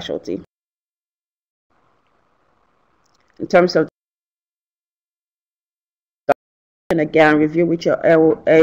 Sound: audio cut out

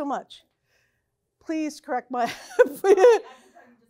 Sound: laughs

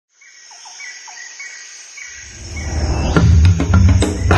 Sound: tropical birds chirping; upbeat drum music

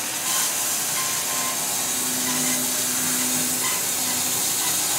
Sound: saw blade whirring

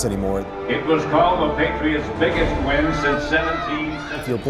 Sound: kids cheer

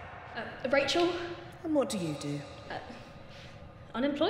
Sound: voice in distance

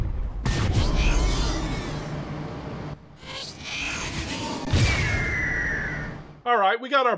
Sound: roar

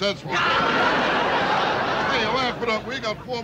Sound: laughter

